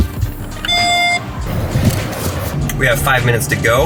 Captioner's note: upbeat electronic music; Tesla beeps